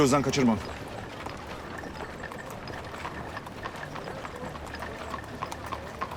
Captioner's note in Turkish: At arabası sesi